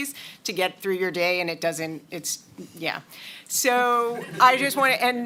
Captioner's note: laughter